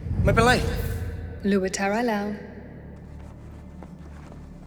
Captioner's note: speaking foreign language